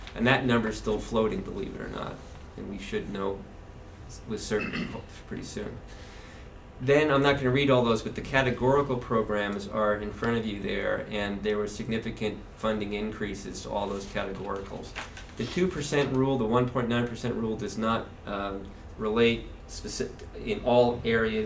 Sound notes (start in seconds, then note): 4.5 clear throats